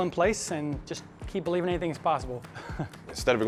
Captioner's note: laughs